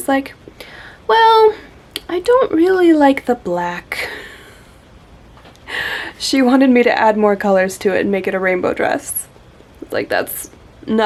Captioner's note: laughs